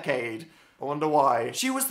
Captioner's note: sarcastically